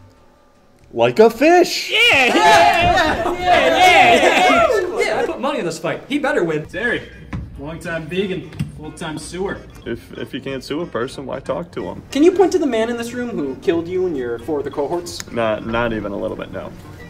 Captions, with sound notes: Like a fish. - Yeah. (men cheering) - I put money on this fight. He better win. - Terry, long time vegan, full-time suer. - If you can't sue a person, why talk to him? - Can you point to the man in this room who killed you and your four other cohorts? - No. Not even a little bit. No.